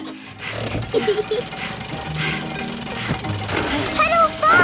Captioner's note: mummy pig panting; peppa laughing